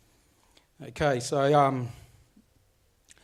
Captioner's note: speaks foreign language